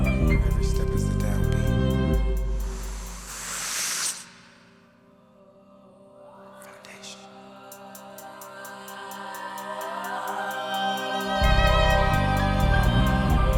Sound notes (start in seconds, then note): 7.7 audience whooping